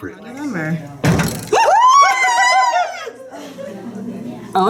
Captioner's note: chatter